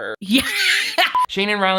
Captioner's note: laughs